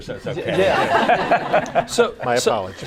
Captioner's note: laughter